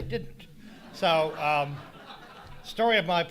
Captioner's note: audience laughing